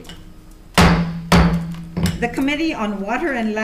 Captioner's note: gavel slams the block